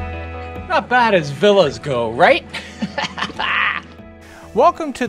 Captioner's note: laughs